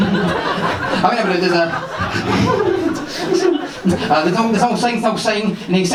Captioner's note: laughs